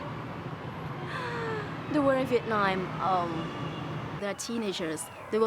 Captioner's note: inhales